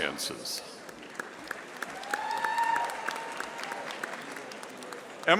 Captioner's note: audience applauding